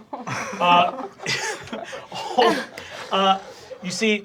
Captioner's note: everyone laughing